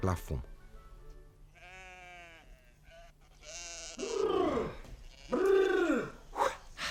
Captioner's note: baaing of sheep